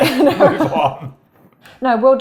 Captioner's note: laugh